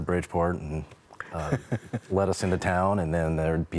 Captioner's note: laughs